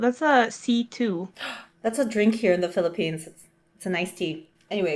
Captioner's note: gasp